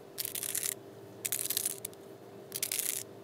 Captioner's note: crackling